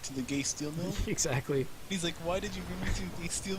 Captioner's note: chuckling